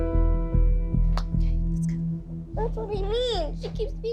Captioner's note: whispering